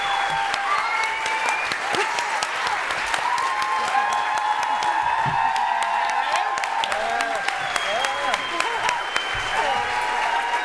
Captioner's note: cheering and applause